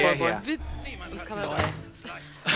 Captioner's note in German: Grimmige Ingame-Stimme